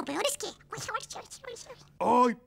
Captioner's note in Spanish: Susurros